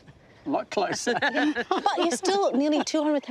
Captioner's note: laughter